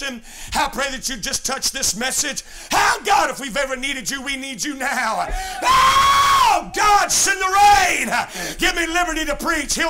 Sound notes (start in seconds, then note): 5.2 screaming